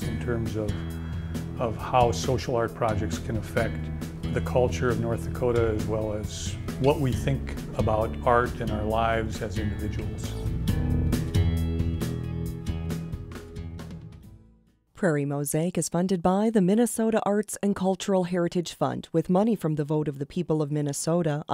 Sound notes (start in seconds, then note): 10.4 gentle music; 15.1 voiceover